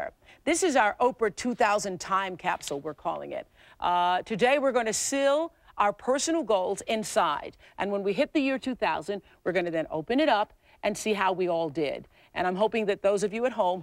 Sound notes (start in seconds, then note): none